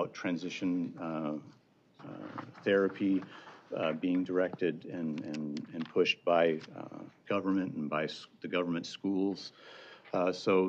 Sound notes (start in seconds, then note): none